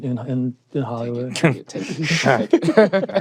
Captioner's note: laughter